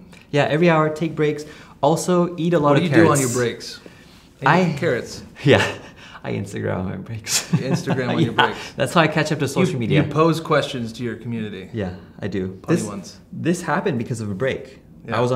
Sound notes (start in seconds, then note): 5.4 laughing; 7.5 laughing